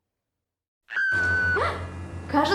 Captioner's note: scream